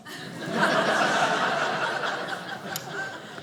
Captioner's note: audience laughing